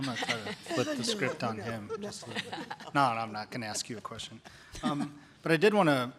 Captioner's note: chuckles